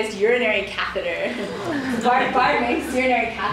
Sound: audience groans and laughs

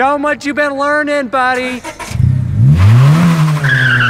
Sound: engine starts; engine revs, tires screech

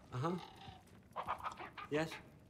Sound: caw

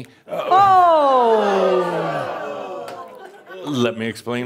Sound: audience says “Ohh!”

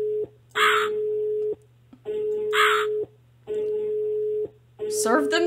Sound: phone Ringing

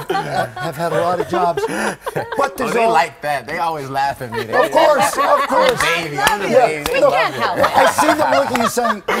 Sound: laughter

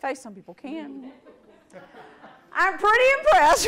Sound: audience laughter

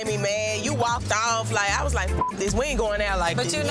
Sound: beep

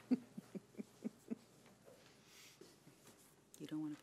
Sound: woman chuckling

